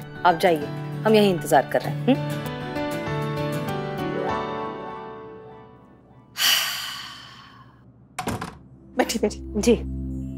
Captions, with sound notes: I'll wait right here. [sighs] [door closes] - Sit. - Yes.